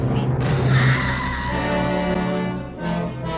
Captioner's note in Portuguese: grito